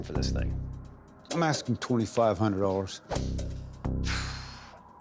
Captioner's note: sighs